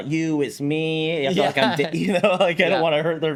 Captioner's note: laughs